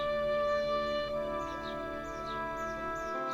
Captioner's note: birds chirping